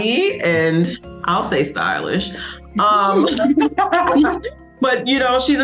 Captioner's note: all laugh